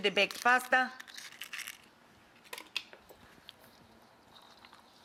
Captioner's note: eggs cracking